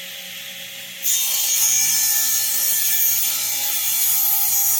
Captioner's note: buzzing